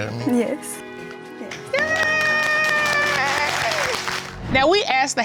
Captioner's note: audience applauding